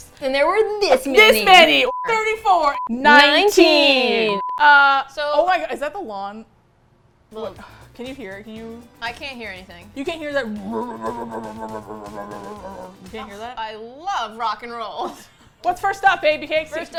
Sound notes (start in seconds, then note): 11.3 motor sound